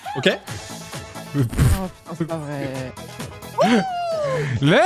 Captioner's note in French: pouffe